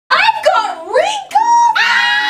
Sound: yells; screams

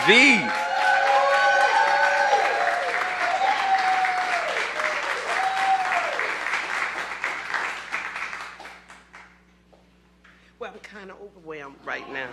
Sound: cheers and applause

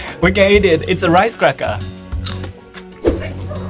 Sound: crunch

